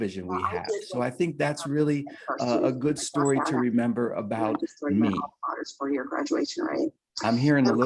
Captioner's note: feedback